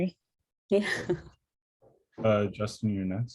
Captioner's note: laughter